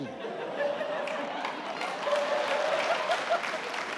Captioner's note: audience laughs